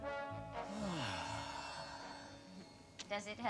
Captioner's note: he sighs